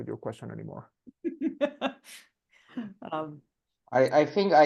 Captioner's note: laughing